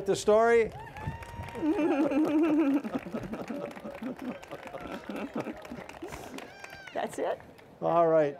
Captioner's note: applause